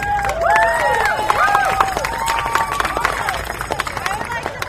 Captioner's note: cheers and applause